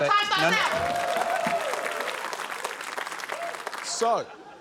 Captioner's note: applause